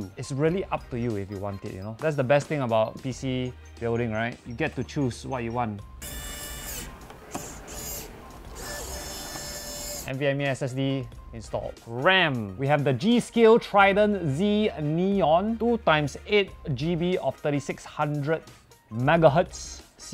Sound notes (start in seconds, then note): 5.9 expensive screwdriver sounds